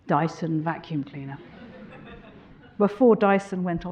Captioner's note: audience laughing